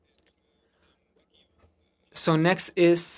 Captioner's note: speaking French